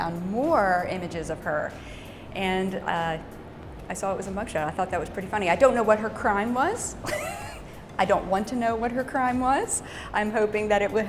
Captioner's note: laughs